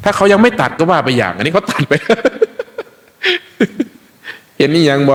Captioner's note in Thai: เสียงหัวเราะ